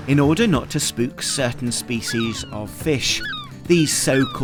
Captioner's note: gulls squawking